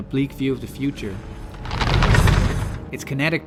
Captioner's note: crunching skulls!